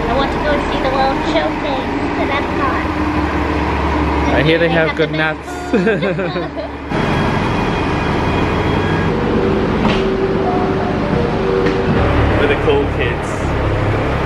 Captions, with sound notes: I want to go see the World Showcase, and I'm hot. I hear they- - I hear they have good nuts. - The best food. (both chuckling) (bus engine whirring continues) (bus doors clacking) - We're the cool kids.